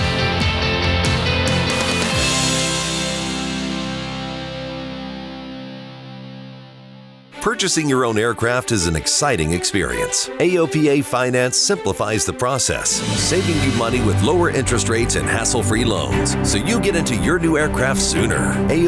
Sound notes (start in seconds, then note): 7.9 man On Voice-Over